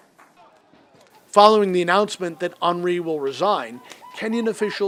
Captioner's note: voice-over